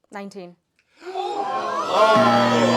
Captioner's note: gasps